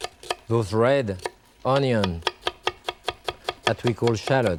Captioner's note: knife chopping; knife chopping